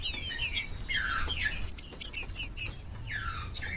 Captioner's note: trinca ferro cantando